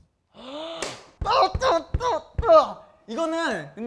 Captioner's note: punching